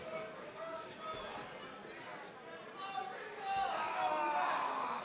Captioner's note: crowd chatter